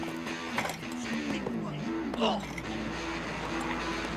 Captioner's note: Ambos gruñendo, gimiendo